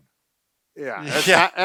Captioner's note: chuckles